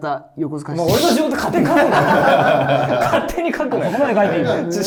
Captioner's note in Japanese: 一同：笑い